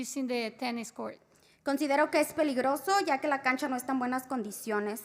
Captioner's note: spanish